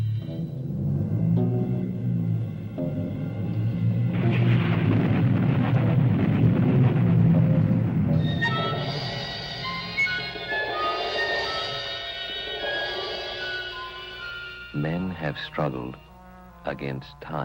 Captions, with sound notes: [THUNDER STRIKING AGGRESSIVELY] [OMINOUS MUSIC] Men have struggled against time,